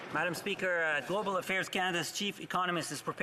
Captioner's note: some applause